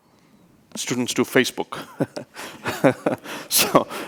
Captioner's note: laughs